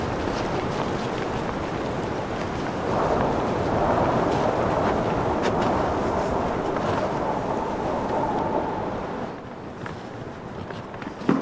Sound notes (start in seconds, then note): 3.0 wind whistling